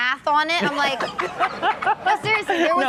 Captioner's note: Steelo laughs